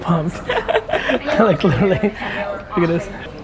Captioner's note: woman laughs